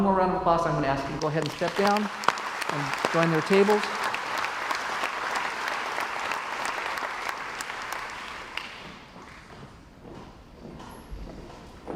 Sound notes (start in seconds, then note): 1.9 crowd applauds